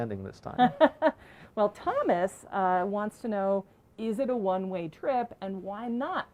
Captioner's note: laughs